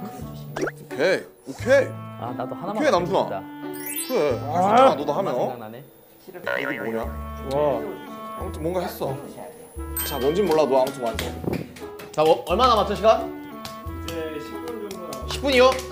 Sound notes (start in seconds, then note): 6.4 muttering